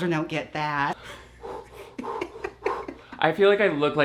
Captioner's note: breathes heavily